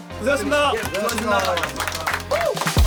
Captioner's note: applause